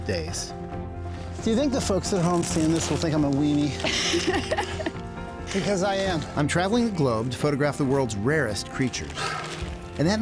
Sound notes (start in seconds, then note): 3.8 laughs